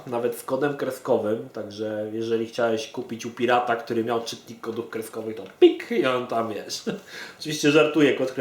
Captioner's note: bing!